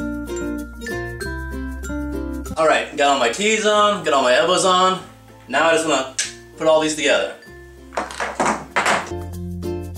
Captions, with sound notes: Alright got all my T's on, got all my elbows on. Now I just want to *click* - put this all together